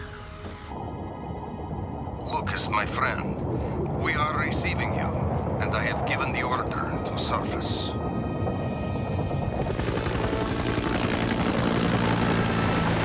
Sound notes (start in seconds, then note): 8.9 aircraft noise